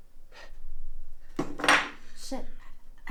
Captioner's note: glass thuds